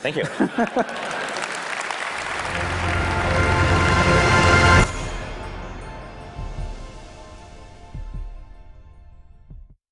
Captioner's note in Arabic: تصفيق